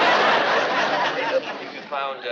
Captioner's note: laughter